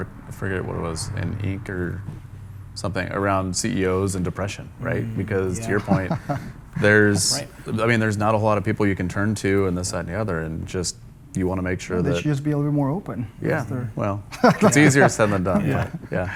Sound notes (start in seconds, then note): 4.8 laughs; 14.3 chuckles